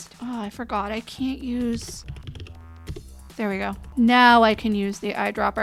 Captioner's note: keyboard typing